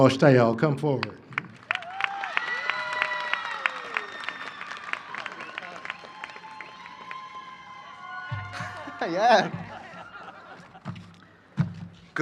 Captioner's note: cheering and applause